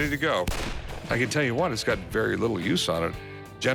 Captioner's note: gunshot